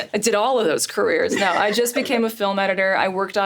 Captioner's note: Richard laughs